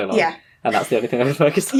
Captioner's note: laughing